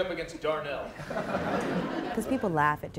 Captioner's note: laughter